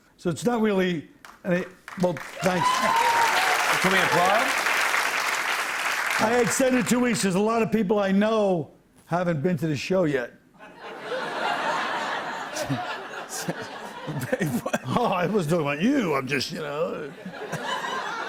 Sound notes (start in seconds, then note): 2.0 cheers and applause; 10.6 laughter